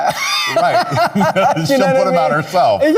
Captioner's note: Lady Camden laughing